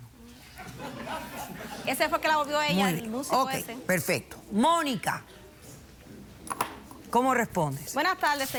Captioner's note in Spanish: risas del público